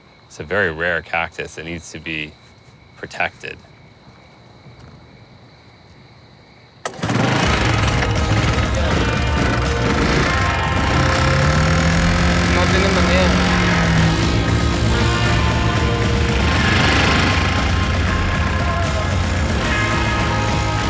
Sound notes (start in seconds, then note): 6.6 engine starts; 12.1 man speaks Spanish